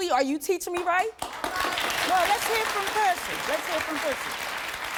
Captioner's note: audience applauding